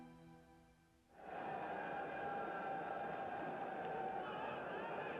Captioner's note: crowd din